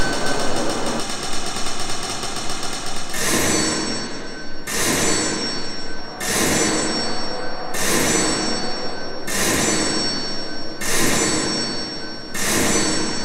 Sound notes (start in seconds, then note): 3.2 cash register sound